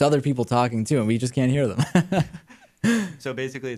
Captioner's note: laughs